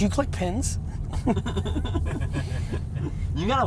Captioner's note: laughs